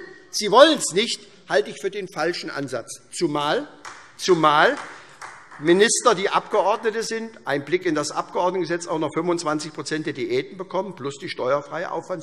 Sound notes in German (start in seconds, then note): 3.8 Beifall